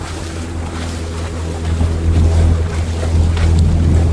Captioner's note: water Splashing